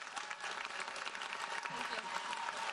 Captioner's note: audience applauds